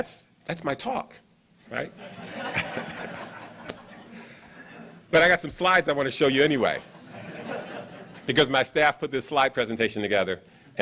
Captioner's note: laughs